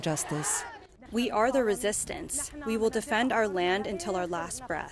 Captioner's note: through translator